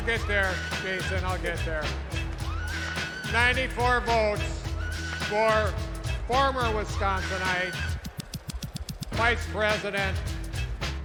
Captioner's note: crowd chanting